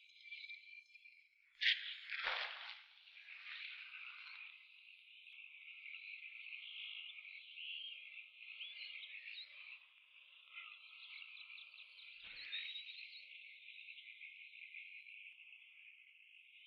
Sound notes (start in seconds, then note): 4.1 frogs croaking; 4.1 insects chirping